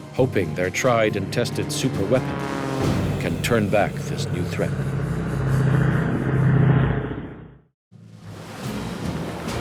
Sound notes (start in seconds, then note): 5.4 Mosquito engine roaring